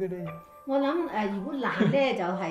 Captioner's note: laughs